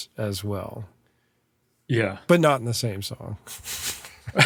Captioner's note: laughs